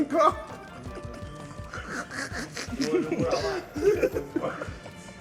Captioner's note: laughs